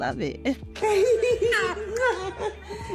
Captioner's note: laughing